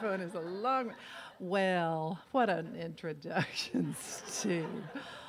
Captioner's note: laughs; laughs